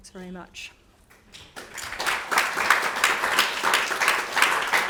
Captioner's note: audience applauding